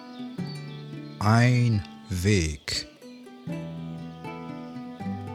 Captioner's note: german